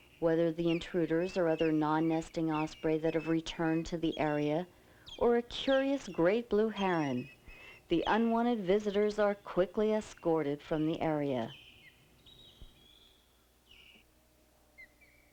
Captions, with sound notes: Whether the intruders are other non-nesting osprey that have returned to the area or a curious great blue heron, the unwanted visitors are quickly escorted from the area. (osprey chirping)